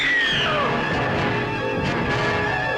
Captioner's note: anita screams